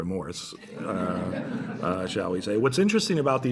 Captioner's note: laughter